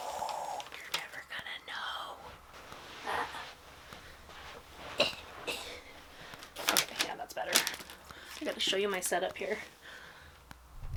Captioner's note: blowing air out